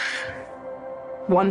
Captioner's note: sighs